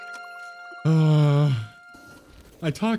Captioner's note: sigh